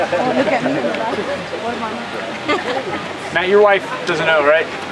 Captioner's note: crowd chattering